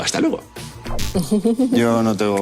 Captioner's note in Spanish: Risas